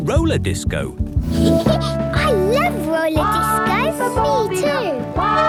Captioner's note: Peppa laughing; trumpeting